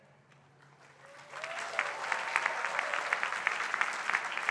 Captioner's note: crowd applauding